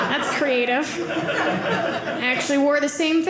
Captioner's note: audience laughing